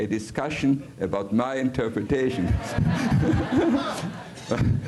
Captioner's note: risas del público